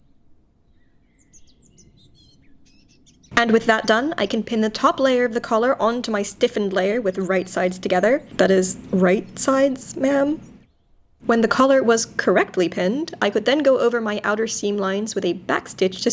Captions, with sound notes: (birds chirping) And with that done, I can pin the top layer of the collar onto my stiffened layer with right sides together. That is right sides, ma'am. When the collar was correctly pinned, I could then go over my outer seam lines with a back stitch